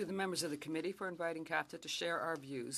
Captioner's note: speaking French